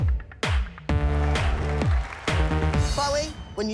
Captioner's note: cheering and applause